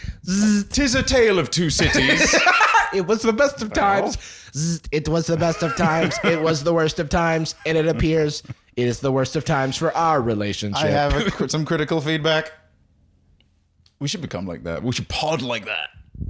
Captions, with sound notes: - (robot noise) - 'Tis a tale of two cities. It was the best of times – (robot voice) It was the best of times; it was the worst of times. And it appears it is the worst of times - for our relationship. - I have some critical feedback. We should become like that. We should pod like that.